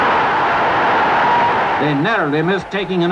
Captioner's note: crowd shouting